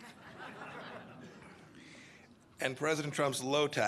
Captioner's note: laughter